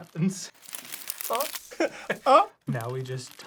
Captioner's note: reed crunching; sound of reeds rustling; both whimper